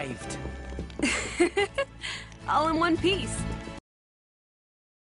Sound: laughs

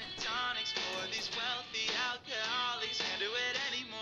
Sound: door closes

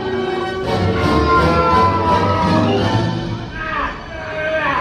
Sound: speaking in foreign language; chef yells

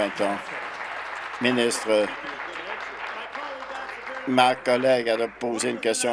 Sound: applause

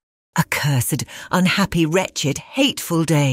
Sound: none

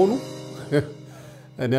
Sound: laughter

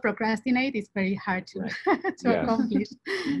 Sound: laughs

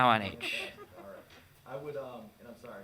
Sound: all laughing

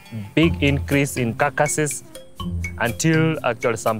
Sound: cow bells ring

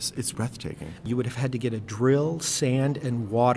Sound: voiceover

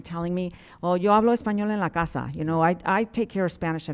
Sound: speaking in Spanish

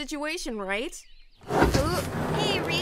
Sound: Kira opens door

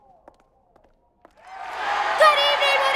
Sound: crowd roars

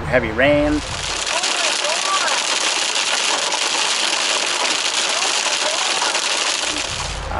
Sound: voice muffled by torrential rain and hail

